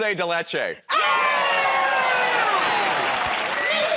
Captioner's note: cheers and applause